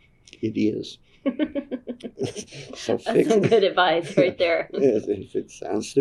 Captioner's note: laughs